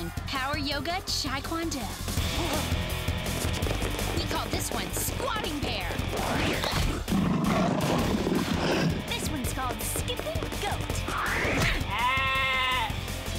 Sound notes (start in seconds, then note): 8.3 growling